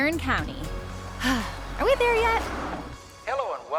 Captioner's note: sigh